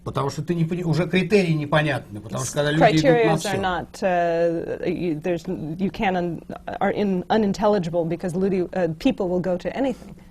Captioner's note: foreign language not transcribed